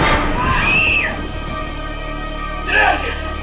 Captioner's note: music accent; scream